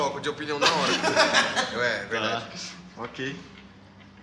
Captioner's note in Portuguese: risos